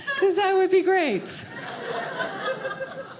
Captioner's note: audience laughing